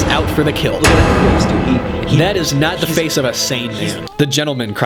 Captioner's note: thud